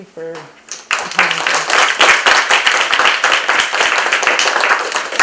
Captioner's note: applause